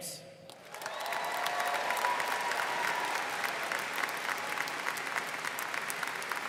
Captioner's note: students cheering and applauding